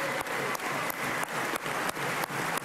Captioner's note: applause